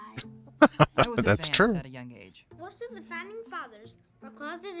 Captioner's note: laughing